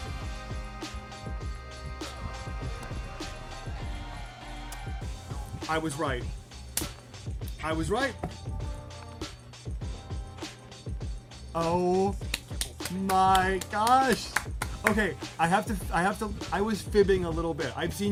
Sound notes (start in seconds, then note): 12.2 clapping